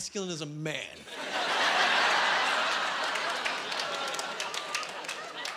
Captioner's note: laughing